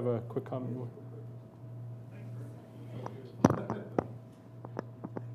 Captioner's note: speaking away from mike